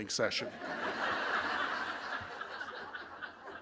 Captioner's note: laughter